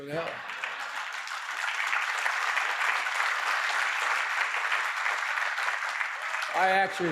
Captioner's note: laughter and applause